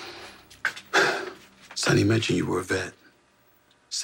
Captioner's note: breathes deeply